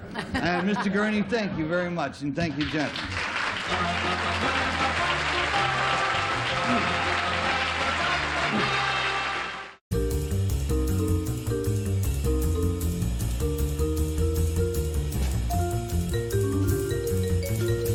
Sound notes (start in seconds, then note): 2.5 applause